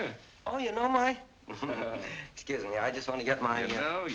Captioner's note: chuckling